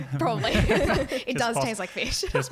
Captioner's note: laughing